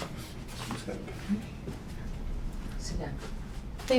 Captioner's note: Mr. Young mumbles